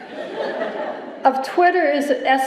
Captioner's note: laughter